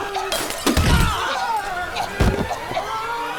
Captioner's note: june coughing; bucky grunting